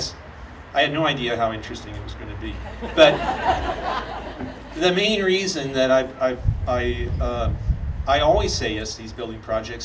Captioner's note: audience laughing